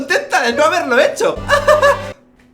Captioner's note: hahaha